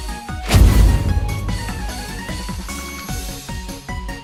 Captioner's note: bonk